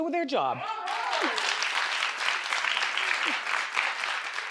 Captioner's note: crowd applauding